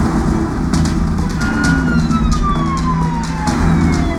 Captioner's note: engine racing, siren wailing